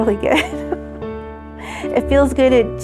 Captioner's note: laughter